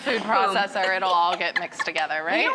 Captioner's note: laughing